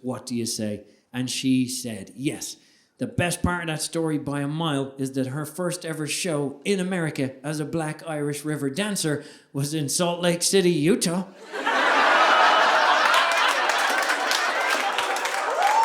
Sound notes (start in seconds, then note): 11.4 audience laughing